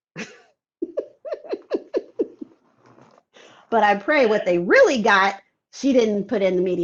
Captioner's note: laughs